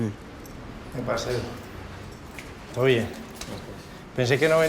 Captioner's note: Spanish spoken audio